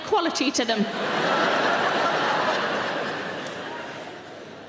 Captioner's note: audience laughs